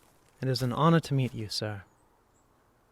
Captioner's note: footsteps on ground and grass